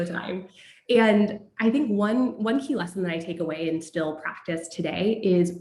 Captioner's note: laugh